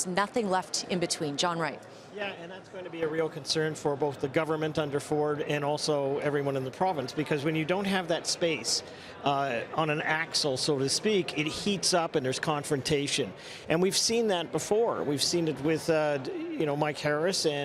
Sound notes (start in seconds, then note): none